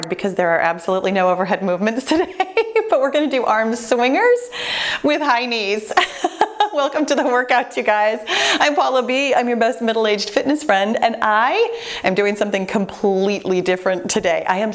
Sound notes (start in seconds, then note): 5.8 laughing